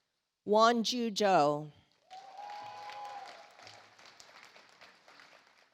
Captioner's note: audience applauds